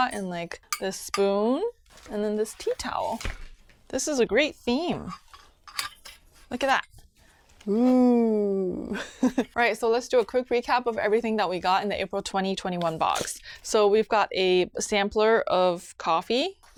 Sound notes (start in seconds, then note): 8.9 chuckles